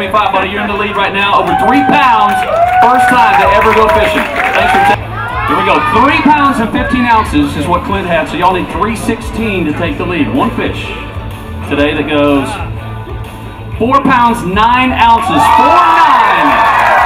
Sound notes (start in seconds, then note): 15.2 audiences yells and claps